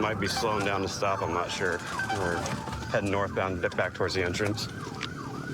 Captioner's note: sirens blaring